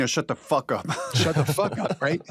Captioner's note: laughter